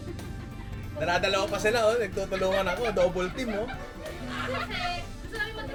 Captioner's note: laughter